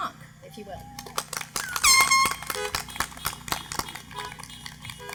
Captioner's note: applause